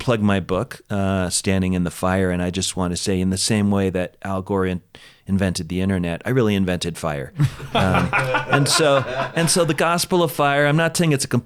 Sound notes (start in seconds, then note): 7.4 laughs